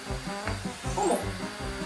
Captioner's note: zap